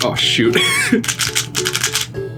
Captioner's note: dying laughter